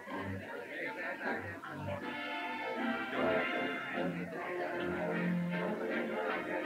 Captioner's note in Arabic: ثرثرة الناس; موسيقى هادئة مستمرة